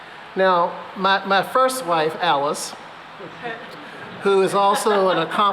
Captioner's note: laughter